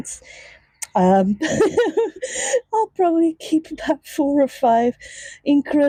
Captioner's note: laughs